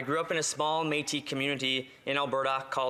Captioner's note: none